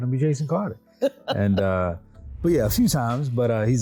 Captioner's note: laughing